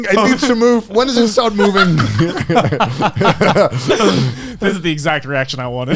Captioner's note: all laughing